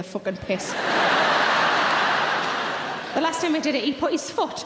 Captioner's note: laughing